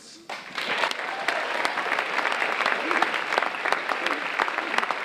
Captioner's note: audience applauding